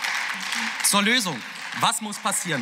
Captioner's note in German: Beifall